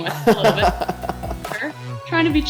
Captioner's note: laughing